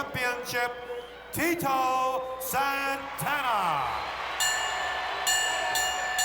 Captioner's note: crowd cheers; bell rings